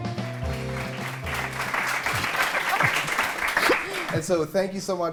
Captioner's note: applause